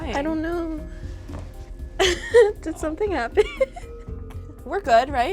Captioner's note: laughs